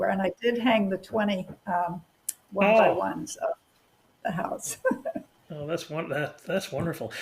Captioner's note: laughter